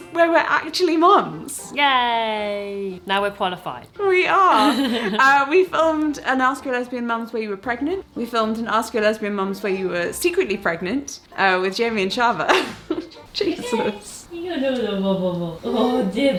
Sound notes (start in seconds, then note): 4.5 laughs; 12.4 laughs; 13.8 coos